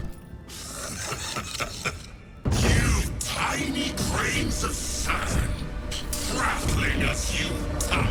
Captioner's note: laughter